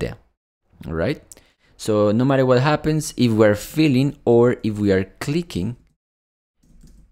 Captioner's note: clicking